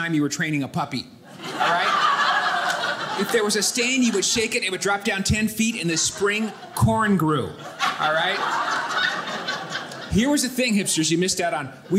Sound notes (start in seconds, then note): 1.3 audience laughing; 8.8 audience laughing